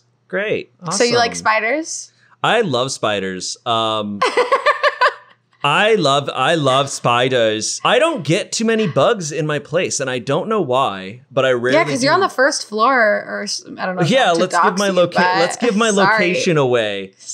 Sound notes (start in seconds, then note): 4.2 laughing